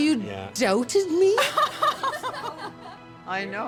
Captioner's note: laughter